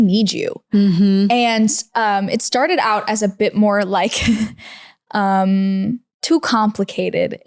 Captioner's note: laughs